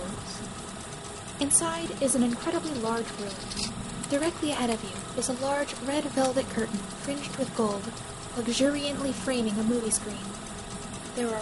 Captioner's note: film Reel playing in the background